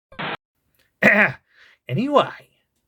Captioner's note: ahem